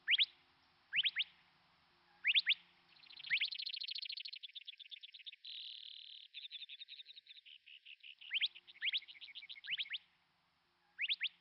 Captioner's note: birds chirping